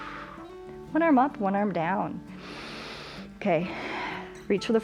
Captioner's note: exhales; exhales; inhales